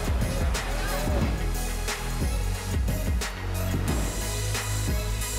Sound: mellow hiphop music; air whooshes; mellow hiphop music

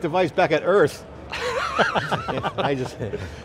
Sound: laughing

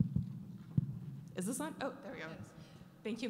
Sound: voiceover

